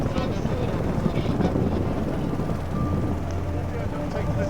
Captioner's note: wind drowns out speaker; boat droning; helicopter whirring